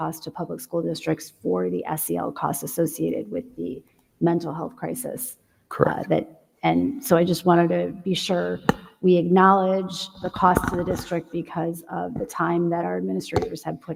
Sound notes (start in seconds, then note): none